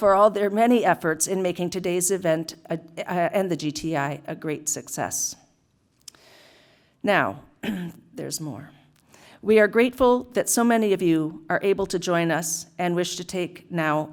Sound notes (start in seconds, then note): 7.6 cough